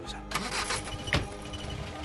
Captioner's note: car Engine Start